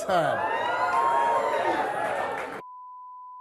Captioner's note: audience cheering